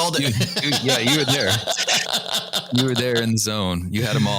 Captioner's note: laughter